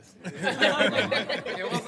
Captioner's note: laughter